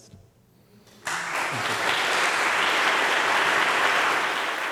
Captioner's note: audience applauds